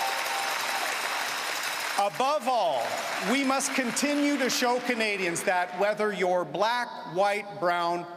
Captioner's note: cheering and Applause